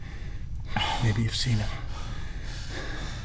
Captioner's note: still breathing heavily